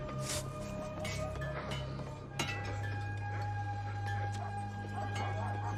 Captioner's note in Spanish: ruido metálico